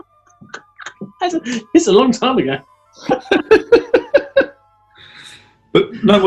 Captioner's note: laughing